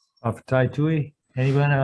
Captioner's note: speaking Hawaiian